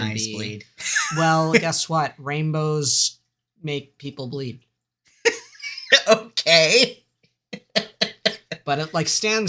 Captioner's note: bewildered laughter